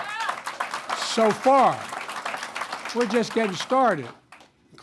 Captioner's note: applause